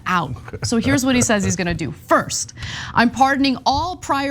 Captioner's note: laugh